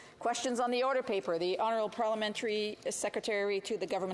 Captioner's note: speaking French